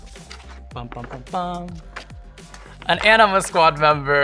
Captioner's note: imitates drum roll